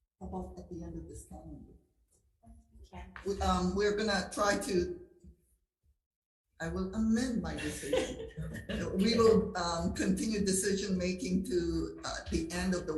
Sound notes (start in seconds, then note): 7.4 laughing